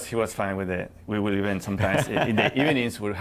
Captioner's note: laughter